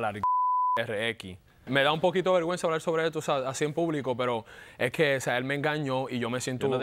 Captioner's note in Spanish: Bip